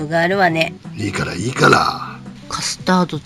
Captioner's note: laughs